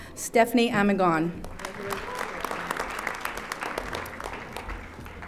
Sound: audience applauding

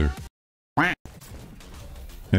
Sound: quack

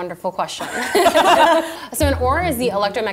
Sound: laughs

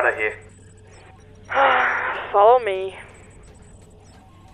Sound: sigh

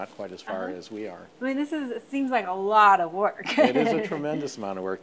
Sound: laughs

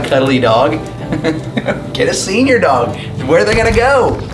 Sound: chuckles

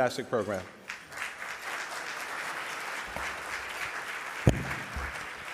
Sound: audience applauding

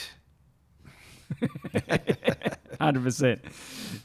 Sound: chuckling

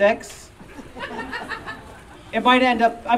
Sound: audience Laughing

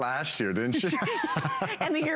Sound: laughter

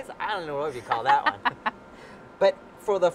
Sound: laughing

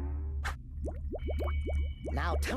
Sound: stomach gurgling

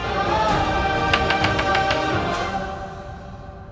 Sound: knocking on door

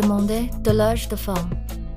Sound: French

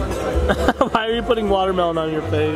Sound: laughs

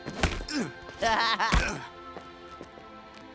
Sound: laughing

